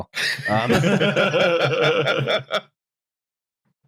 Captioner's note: laughter